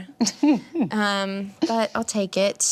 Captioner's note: laughs